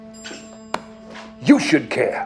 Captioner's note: slapping